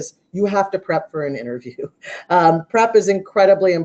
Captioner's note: laughs